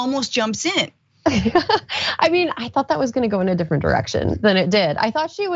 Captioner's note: laugh